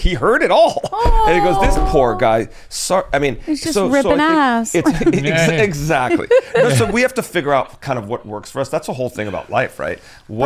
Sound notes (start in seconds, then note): 4.8 laughs; 4.8 laughing